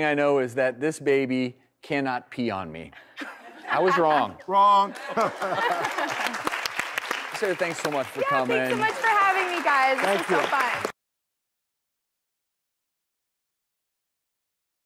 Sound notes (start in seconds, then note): 4.6 crowd applauding